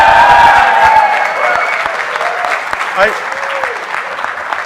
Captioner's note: students cheering